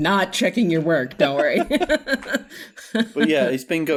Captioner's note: laughter